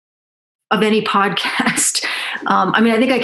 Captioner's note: laughs